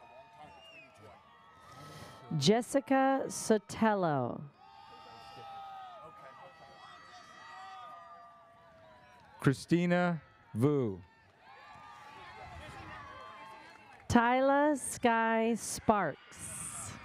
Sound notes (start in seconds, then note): 4.6 audience cheers; 11.1 audience cheers